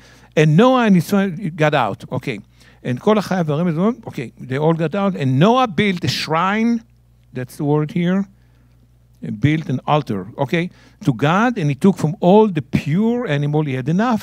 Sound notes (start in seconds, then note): 2.5 speaking in Hebrew